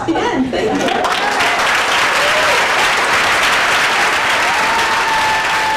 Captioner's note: crowd applauding and cheering